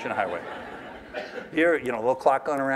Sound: laughter

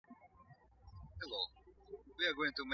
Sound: birds chirping

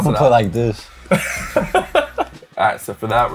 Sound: laughing

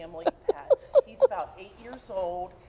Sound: laughter

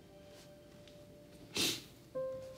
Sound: sniffles

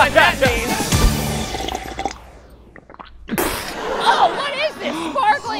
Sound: guzzle; spit

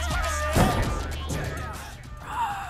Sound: screams quietly

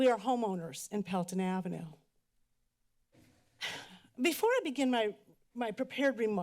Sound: exhales

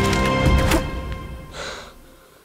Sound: arrow thudding

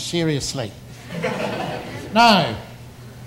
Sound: audience laughs

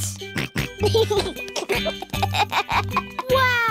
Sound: snorts and giggles

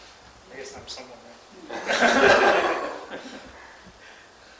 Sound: laughter; laughs, laughter

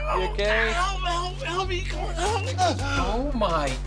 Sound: grumbling

